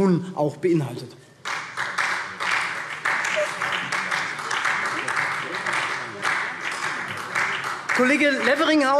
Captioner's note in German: Beifall SPD